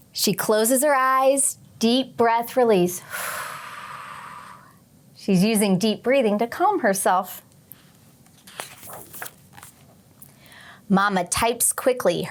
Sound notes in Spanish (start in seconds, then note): 3.0 exhala